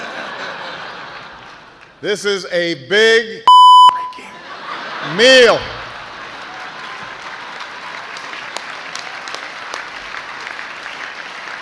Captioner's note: laughter